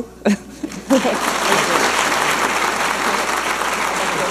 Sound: audience applauding

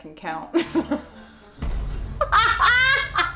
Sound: laughing

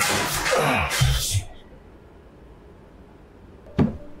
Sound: Oscar grunting; mysterious music; footsteps

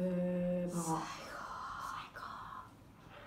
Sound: whisper

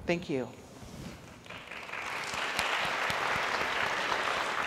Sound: audience applauds

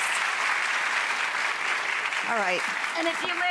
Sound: audience applauding

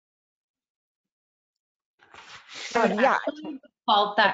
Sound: murmuring

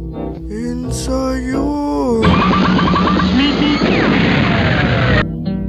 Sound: pop* meep meep *rocket takeoff

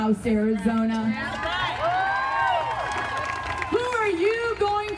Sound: audience cheering

